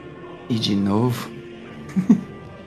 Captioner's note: laughs